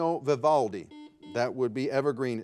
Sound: buzzer beeping

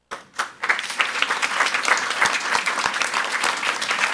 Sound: audience applauds

